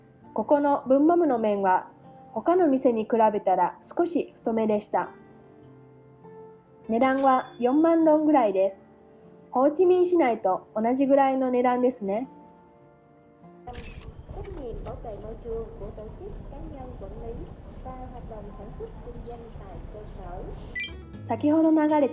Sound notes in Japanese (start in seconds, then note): 13.7 ベトナム語の路上アナウンス